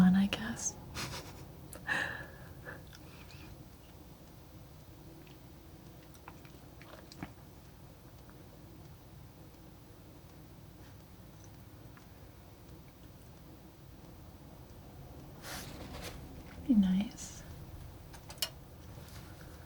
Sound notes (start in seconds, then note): 1.0 laughing